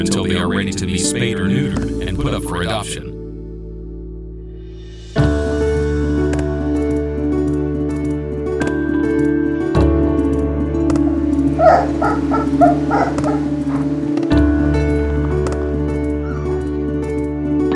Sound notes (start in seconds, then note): 11.5 puppies barking; 15.1 gentle music